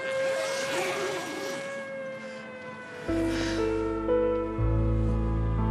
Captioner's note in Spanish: ruido al abrir el zipper